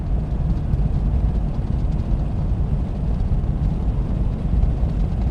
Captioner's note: car rumbling continues